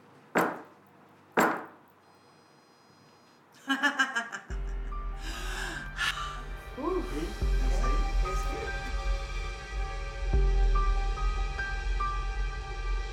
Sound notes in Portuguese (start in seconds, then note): 3.6 risadas